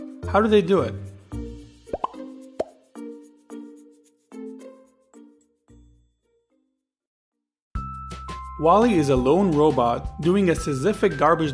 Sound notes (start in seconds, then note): 1.9 bubble popping; 2.0 light fun music